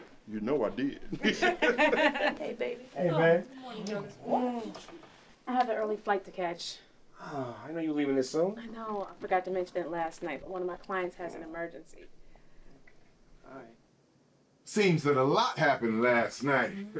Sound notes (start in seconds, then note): 1.1 laughter at once; 1.1 laughing